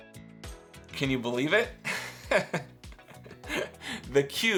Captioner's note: laughs